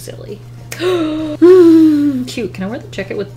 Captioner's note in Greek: Κοφτή ανάσα